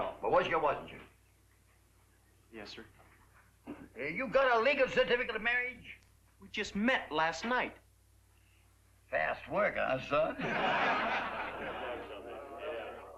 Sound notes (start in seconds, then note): 10.3 laughter